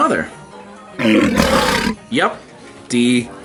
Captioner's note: monster growling